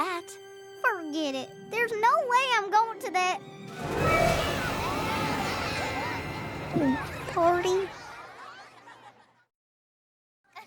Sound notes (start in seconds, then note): 6.7 gulps